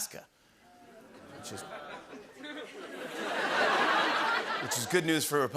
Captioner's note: audience groans